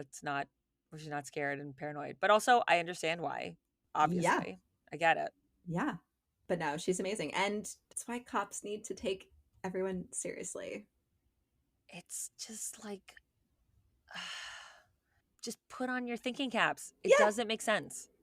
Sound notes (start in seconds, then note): 14.1 sighs